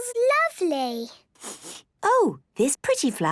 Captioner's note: sniffs